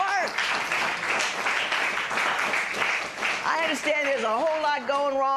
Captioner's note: applause